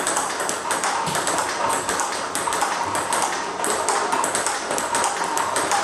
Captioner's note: ball ping pong hitting continues